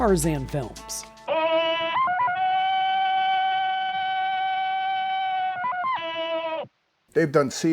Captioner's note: yelling